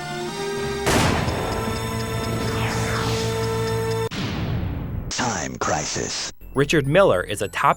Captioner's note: game audio